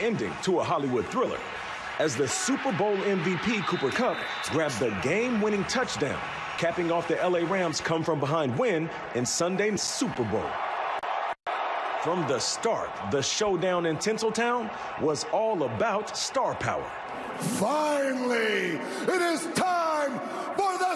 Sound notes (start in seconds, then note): 2.0 cheers